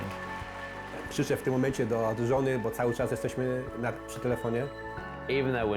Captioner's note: speaking in foreign language